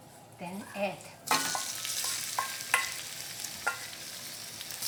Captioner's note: sizzling